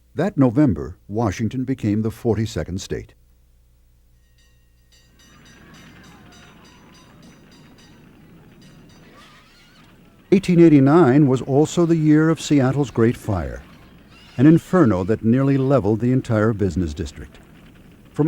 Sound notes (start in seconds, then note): 4.4 bells ringing; 6.9 flames roaring